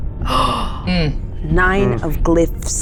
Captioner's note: gasps